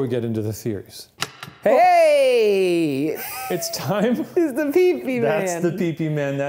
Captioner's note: chuckles